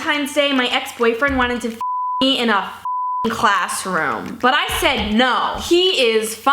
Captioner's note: beep